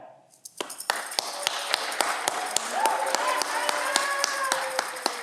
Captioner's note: audience cheering